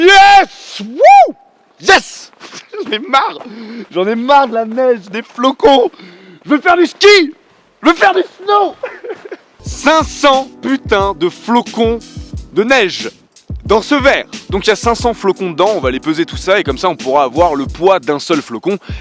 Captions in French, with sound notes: YYYYEEEESSSS Whouuu !! J'en ai marre ! J'en ai marre de la neige, des flocons ! Je veux faire du ski, je veux faire du snow ! *rire* 500 putain de flocons de neige ! Dans ce verre ! Donc y a 500 flocons dedans, on va aller peser tout ça et comme ça on pourra voir le poids d'un seul flocon